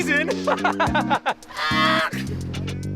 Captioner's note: laughing